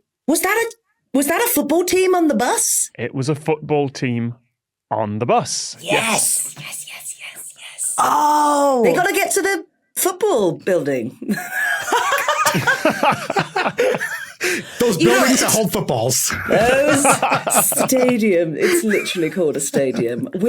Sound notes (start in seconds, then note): 11.3 others laughing; 11.5 baffled wheeze; 16.0 laugh